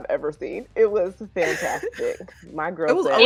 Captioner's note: laughing